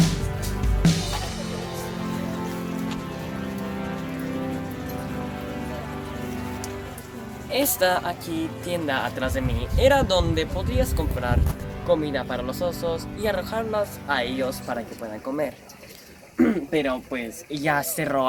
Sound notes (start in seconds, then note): 16.3 cough